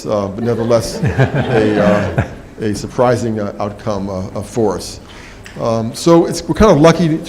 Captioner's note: laugh